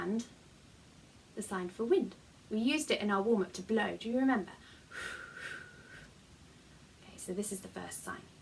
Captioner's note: blow